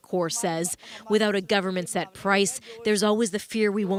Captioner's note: speaking alternate language